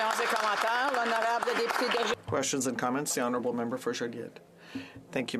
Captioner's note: some Applause